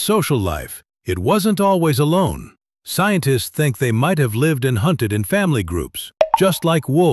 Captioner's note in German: Klingeln